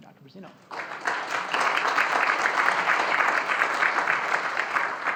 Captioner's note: audience applauding